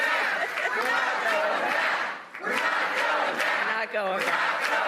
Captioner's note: applause